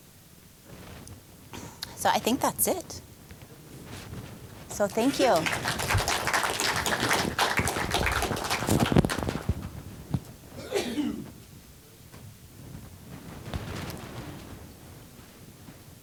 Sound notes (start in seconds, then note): 4.6 applause